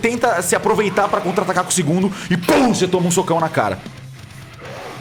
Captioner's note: pow